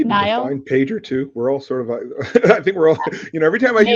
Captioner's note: laughs